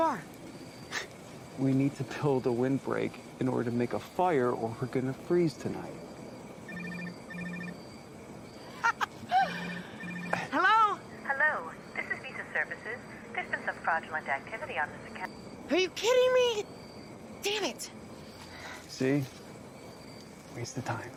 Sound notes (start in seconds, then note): 6.6 phone rings; 8.7 laughs